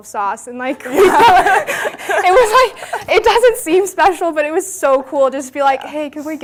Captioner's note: laughter